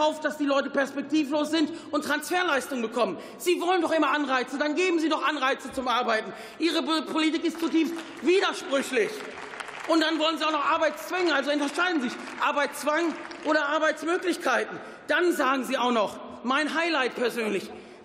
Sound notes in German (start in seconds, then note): 7.2 Beifall